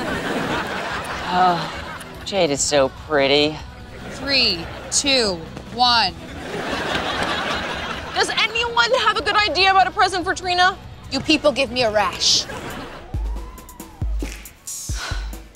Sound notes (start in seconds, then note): 0.6 sighing; 14.8 sighing